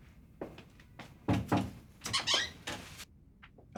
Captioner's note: knocks